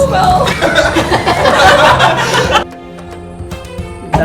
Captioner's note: laughing